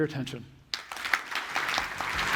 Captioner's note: applause